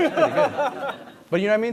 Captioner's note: laughter